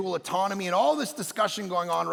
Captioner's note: none